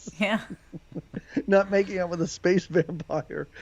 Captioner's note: laughs